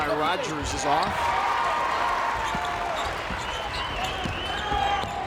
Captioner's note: crowd applauds